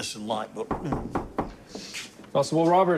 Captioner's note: knocking